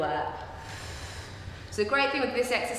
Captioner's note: breathing noises